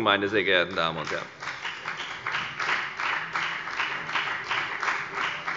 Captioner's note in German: Beifall bei der FDP